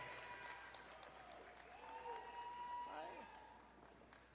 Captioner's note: crowd cheering and applauding